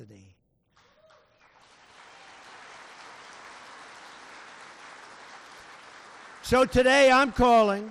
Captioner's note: applause